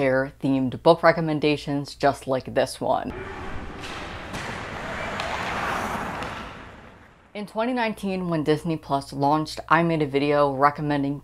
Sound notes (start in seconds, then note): 3.1 skates gliding and hockey players yelling